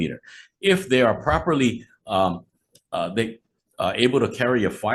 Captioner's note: stammering